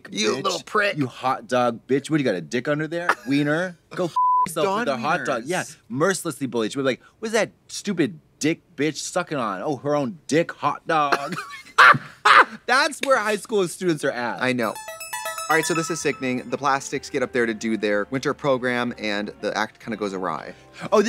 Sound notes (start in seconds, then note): 11.6 blonde women guffaw; 14.6 upbeat music